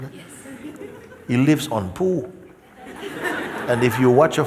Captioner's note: laughter